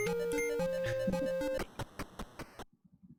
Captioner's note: chuckles